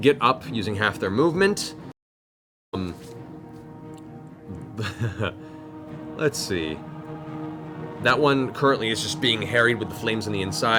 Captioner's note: laughs